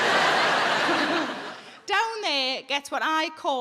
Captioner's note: audience laughs